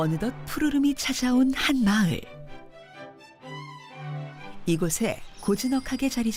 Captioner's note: voiceover